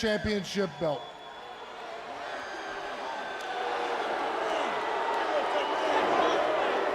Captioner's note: crowd chattering